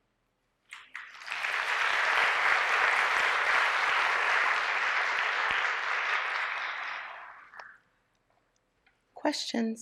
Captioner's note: applause